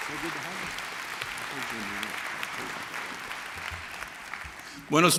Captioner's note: applause